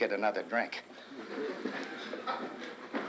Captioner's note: crowd chuckles